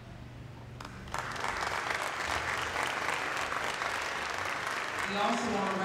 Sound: applause

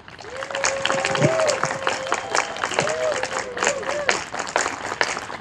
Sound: audience applauding and cheering

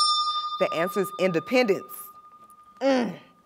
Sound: bell rings, time expires

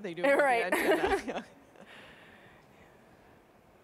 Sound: chuckling

